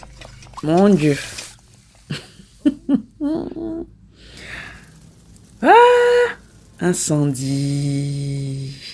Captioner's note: laughs